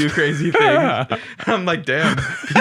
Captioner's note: laughing